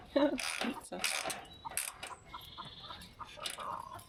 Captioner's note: luaghs